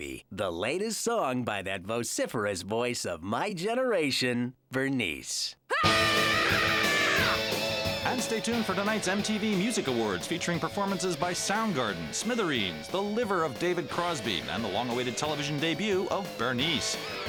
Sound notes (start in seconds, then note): 5.7 Bernice screaming